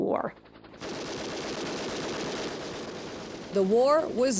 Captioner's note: machine gun firing